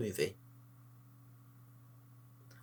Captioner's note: long pause